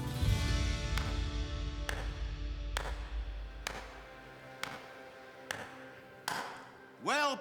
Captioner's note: slow applause